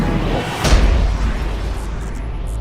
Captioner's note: thud!